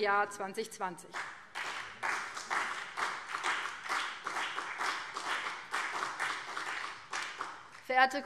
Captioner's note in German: Beifall BÜNDNIS 90/DIE GRÜNEN und CDU